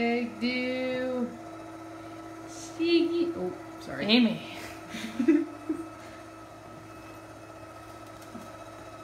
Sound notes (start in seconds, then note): 4.9 giggles